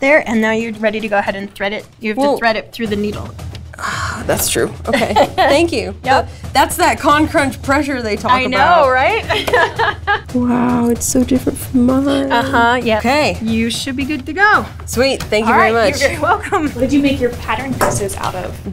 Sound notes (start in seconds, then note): 3.7 sighs; 9.2 laughs